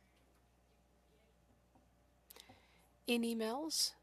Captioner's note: speaking French